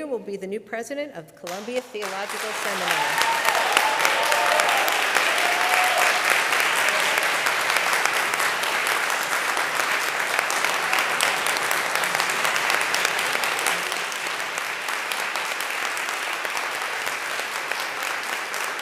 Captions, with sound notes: will be the new President of Columbia Theological Seminary. (congregation applauds)